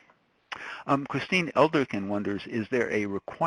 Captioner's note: voiceover